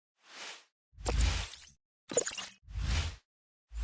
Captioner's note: whooshing sound